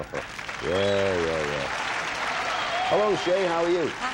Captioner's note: audience applauding